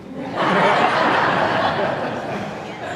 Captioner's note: laughing